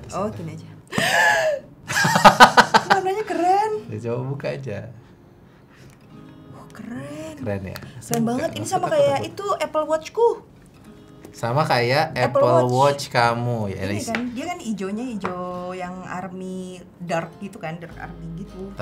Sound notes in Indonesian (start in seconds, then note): 1.9 Tertawa